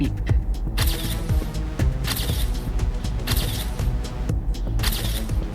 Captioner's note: camera flashes